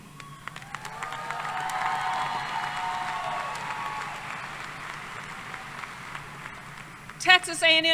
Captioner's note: applause